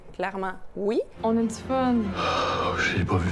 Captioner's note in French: soupirant